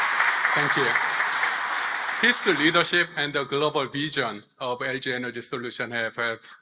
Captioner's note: applause